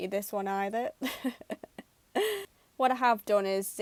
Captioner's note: laughs